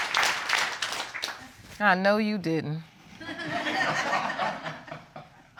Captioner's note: audience laughing